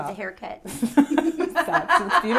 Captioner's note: laughs